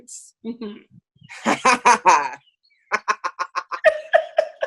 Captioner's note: laughing